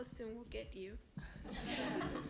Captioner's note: laughter